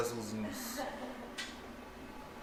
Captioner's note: laughter